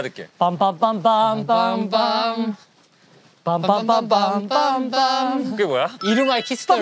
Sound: humming

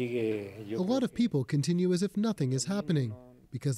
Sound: speaking Foreign Language

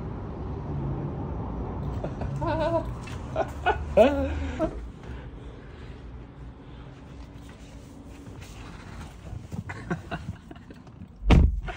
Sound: laughing

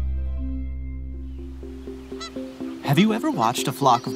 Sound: geese honking

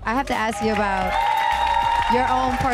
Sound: audience claps and cheers

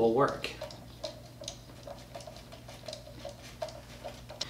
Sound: screw tightening

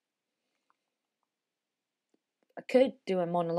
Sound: a beat

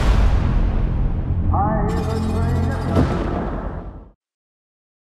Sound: announcer through speakers

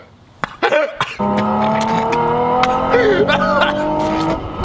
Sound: car engine revving

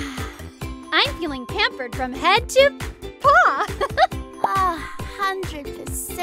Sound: laughs

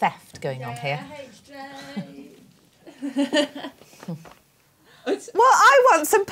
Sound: laughs

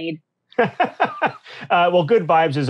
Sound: laughing

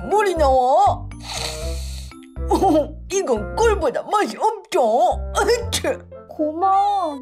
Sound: sniffling

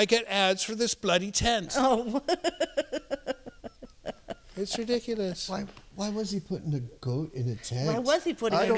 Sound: laughter

